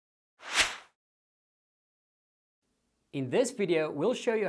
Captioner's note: whooshing